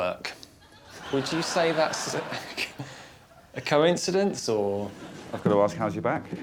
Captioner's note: laughs